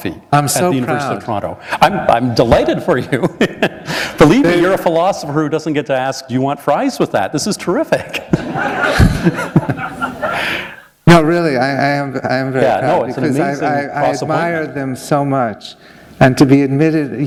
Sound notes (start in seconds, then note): 3.2 chuckle; 8.1 laughter